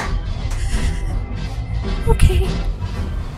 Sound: deep inhale

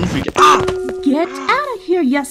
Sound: pan hit

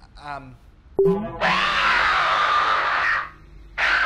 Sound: indistinct screaming; gnashing of teeth, electronic glitching

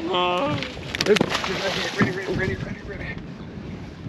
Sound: fish splashing

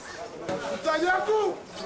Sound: shouts

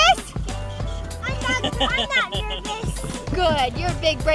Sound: laughing

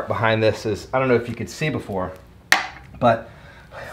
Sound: clinks

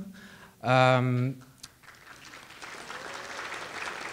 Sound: audience applauding

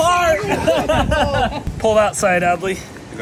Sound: everyone laughing

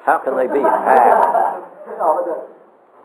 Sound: audience laughter

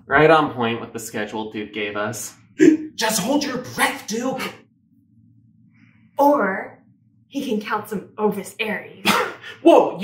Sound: hiccup

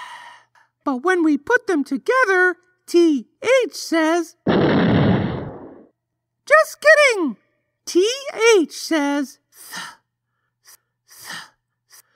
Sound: explosion

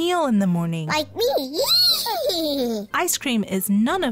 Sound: giggles

